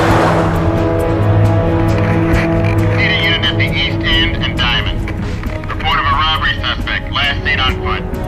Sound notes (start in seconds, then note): 4.1 man on radio